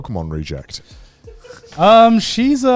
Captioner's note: laughs